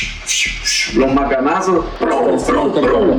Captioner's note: sound of blows